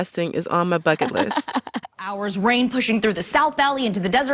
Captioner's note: soundbite of archived recording; laughter